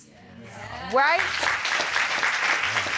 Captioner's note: applause